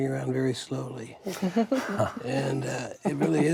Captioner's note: light laughter